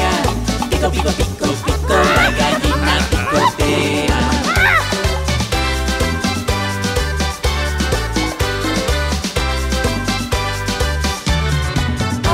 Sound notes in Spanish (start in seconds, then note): 4.4 Grito; 5.2 Música alegre